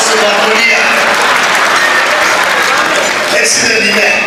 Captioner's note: laughter